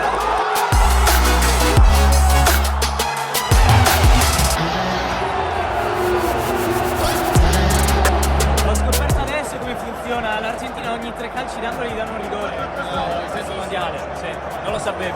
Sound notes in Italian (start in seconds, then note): 3.2 Applauso